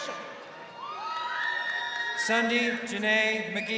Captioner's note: crowd cheering